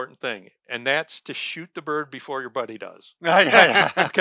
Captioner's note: laughing